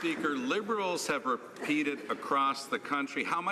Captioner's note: some Applause